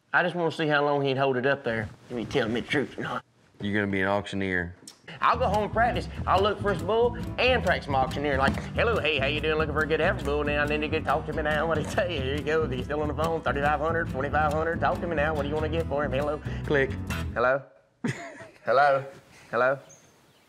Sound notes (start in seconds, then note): 8.7 auctioneering; 18.0 laughter